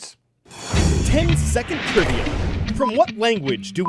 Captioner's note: voice-over